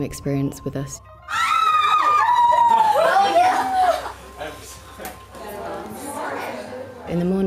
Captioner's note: group Talking